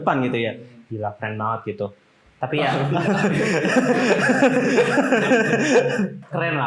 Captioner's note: laughter